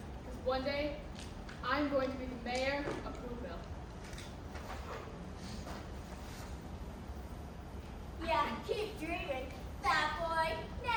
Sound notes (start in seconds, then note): none